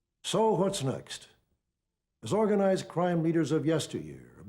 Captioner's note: none